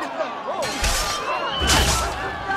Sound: eagle screech

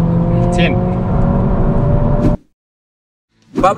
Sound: engine revving

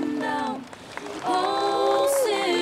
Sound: congregation claps

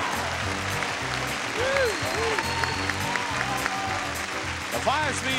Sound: audience applauds

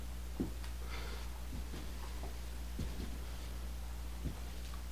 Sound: footsteps

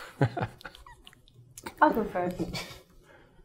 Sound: laughing

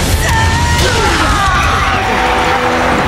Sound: fatal scream

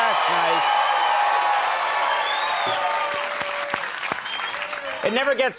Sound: cheering and applause

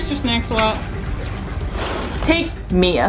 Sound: background music; water splashing/lapping noises

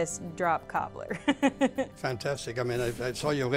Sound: laughs

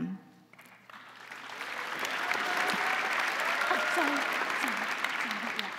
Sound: crowd applauding; crowd cheering

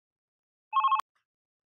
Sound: phone Ringing

